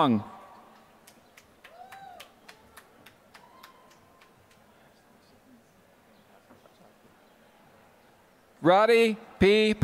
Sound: applause

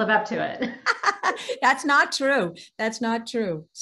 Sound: laughing

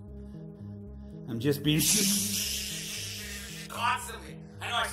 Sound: shzzshzzzshzzzz

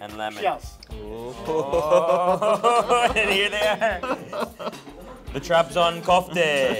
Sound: both laugh

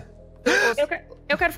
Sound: gasps

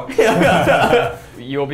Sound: laughing

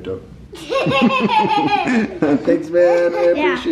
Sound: laughing

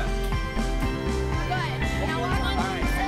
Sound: encouraging Chants

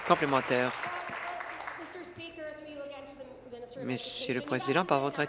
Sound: applause

